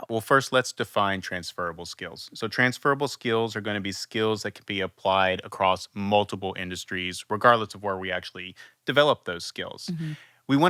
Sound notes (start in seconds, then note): none